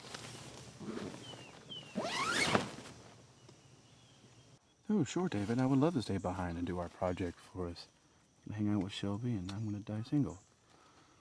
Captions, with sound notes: (tent rustling) (zipper whizzes) - Oh, sure, David, I would love to stay behind and do our project for us. You can hang out with Shelby, and I'm gonna die single.